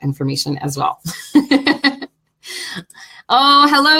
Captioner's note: laughing